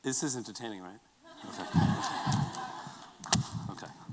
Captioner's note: laughter